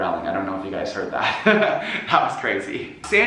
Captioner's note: laughs